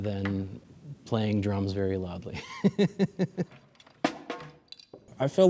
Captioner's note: laughs